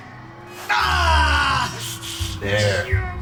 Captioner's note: screams